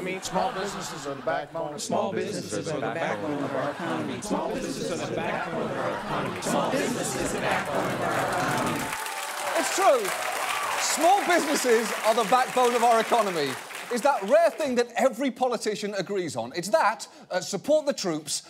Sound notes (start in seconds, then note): 9.0 audience applauding